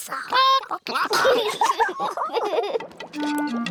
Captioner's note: children giggle; chickens chatter